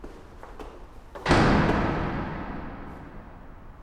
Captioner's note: door slams